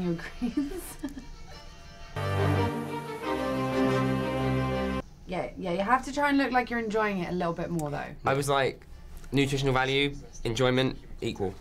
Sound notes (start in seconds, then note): 0.2 laughs